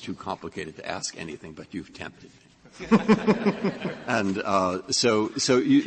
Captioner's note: laughter